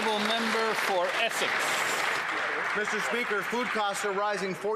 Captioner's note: some Applause